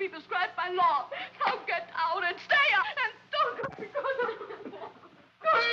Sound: sobbing

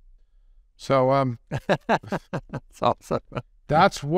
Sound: laughs

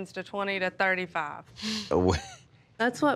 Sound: chuckles

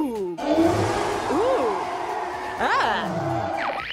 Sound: roar

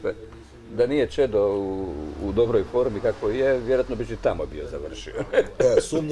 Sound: laughs

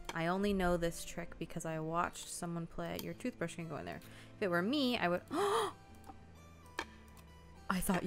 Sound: gasps

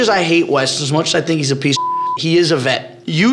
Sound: beep

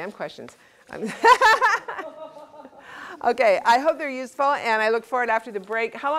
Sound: laugh

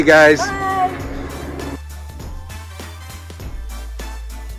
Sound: man's voice

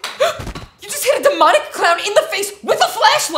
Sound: gasps

